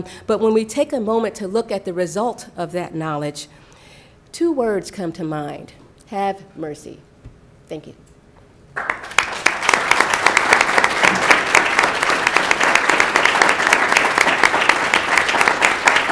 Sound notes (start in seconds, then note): 8.7 clapping